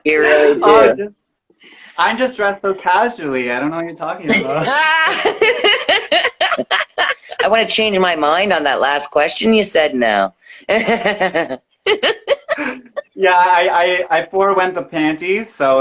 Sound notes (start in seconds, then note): 4.2 laughing